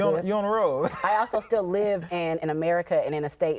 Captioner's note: laughing